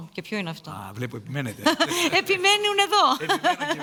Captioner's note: laughter